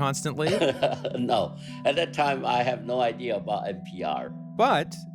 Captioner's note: laughter